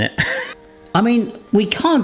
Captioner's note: laughs